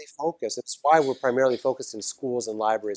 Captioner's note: cough